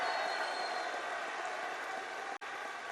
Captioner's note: applause